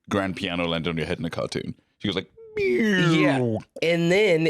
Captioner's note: beeeeeeee-oooooo